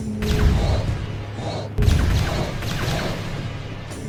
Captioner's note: laser blasts